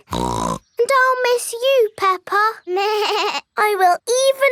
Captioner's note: snorts; bleats